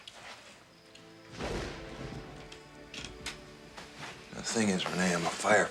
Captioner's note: thunder clapping